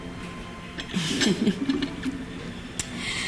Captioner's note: chuckles